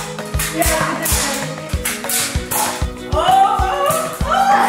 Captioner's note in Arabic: نقر بندقية نيرف